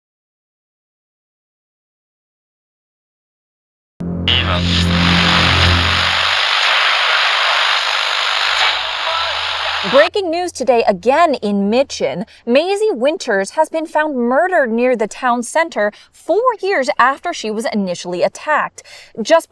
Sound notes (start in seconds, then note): 4.4 camera buzzing